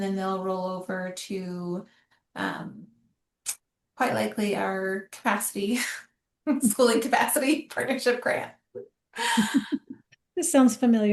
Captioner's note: laughter